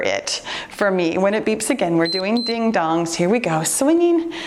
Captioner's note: timer beeps